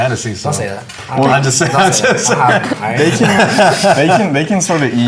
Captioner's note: group laughter